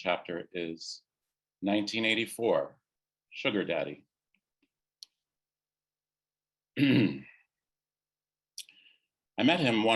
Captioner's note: clears throat